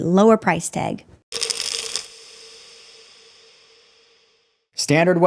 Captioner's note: pills rattling